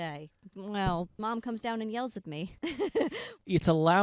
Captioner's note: laughing